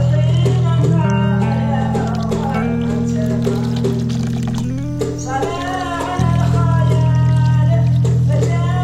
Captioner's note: sound of water falling in the basin